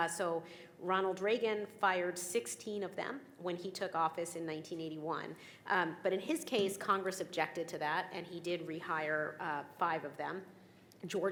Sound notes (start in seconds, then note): none